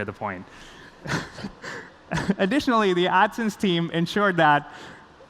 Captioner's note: laughs